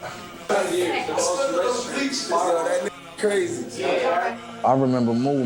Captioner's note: people conversing